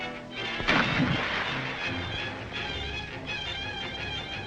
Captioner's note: water splashes